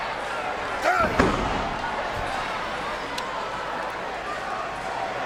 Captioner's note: wrestlers grunt